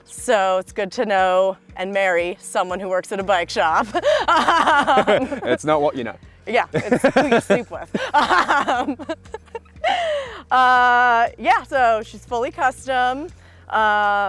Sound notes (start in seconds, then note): 3.8 laughs; 7.8 laughs; 8.2 both laughs